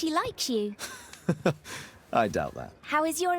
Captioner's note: laughs Amusingly